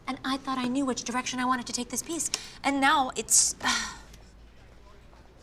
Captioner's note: sighs